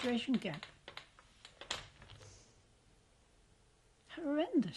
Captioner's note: pauses for 3 seconds